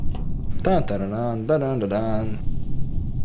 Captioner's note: humming